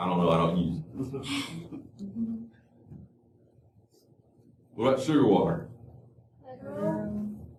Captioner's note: laughter